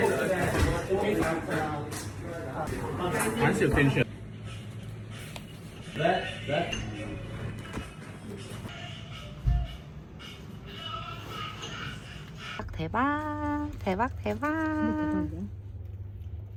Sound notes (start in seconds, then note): 10.7 sob